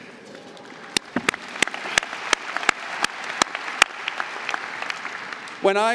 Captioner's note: audience applauding